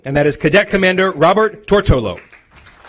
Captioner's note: applause